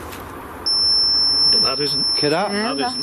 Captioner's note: energy detector device beeping and whistling